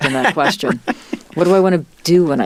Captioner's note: laughing